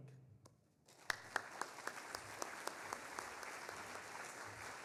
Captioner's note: audience applauding